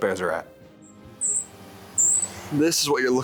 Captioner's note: insects chirping